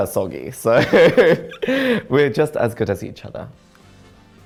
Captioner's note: laughs